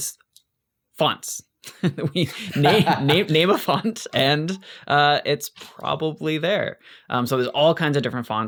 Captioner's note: laughs